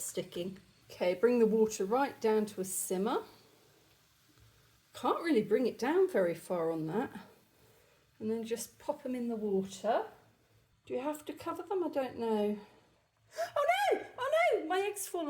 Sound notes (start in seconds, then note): 13.2 gasp